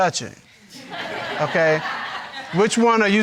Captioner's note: audience laughing